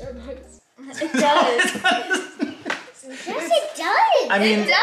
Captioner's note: laughs